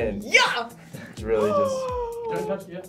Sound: gasps

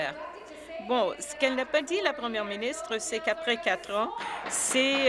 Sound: applause

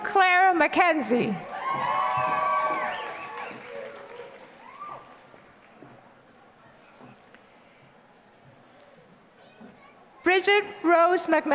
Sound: applause

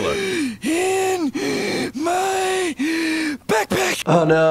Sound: wheeze

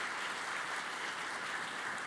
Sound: applause

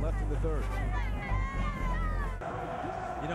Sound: cheering

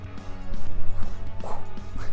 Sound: whoosh

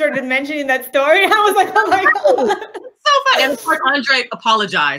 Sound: laughter

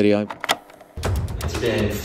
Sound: tape rolling; thrilling music

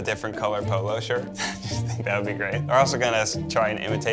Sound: chuckles

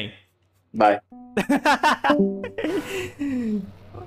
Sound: discord leave sfx; laughs

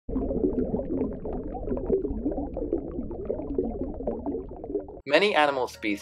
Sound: water gurgles

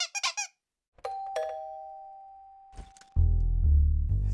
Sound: doorbell ringing; subtle bass music

